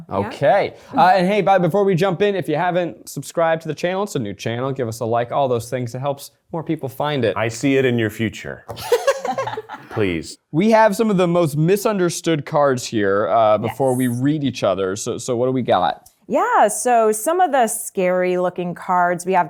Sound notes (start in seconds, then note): 8.7 laughing